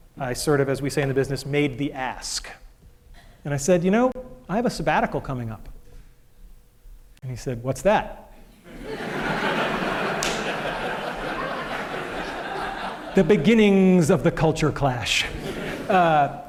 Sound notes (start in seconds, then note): 11.2 laughter